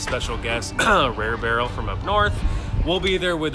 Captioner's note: coughs